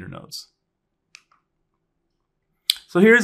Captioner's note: remote clicking